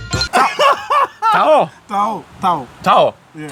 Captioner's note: laughing